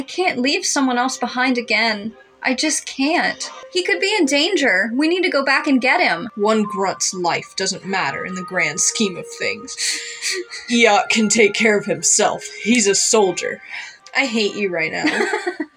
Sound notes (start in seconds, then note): 9.8 sniffle; 15.0 laugh